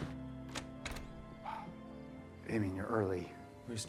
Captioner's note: door clacking